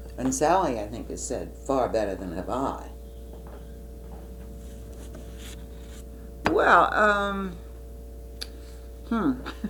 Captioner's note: laughs